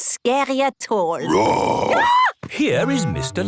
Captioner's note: roar, scream